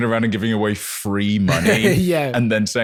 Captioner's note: laughs